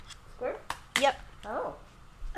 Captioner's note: faintly speaking